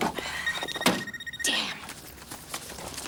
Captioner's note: phone ringing